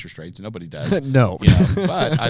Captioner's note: scoffs